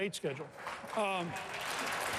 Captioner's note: applause